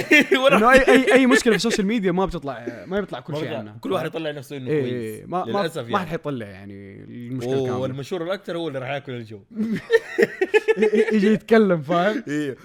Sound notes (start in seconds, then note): 0.0 laughs; 9.6 laughing